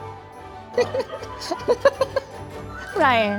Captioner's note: and producers laughing